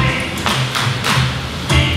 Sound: clapping

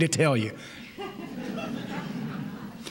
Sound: laughter

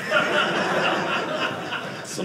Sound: audience laughing

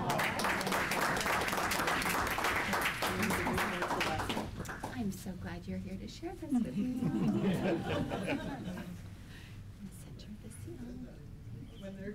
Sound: applause

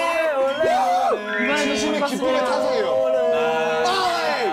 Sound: shouting coming from the bottom of his heart

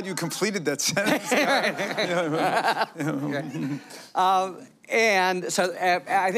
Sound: laughter

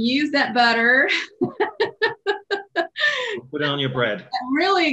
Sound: laughs

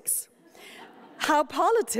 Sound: light laughter

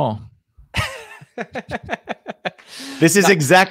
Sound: laughs

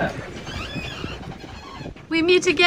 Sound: fenders squealing

